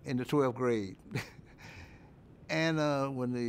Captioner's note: chuckles